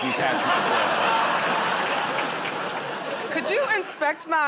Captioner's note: laughter